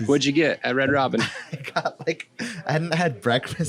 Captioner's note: laughing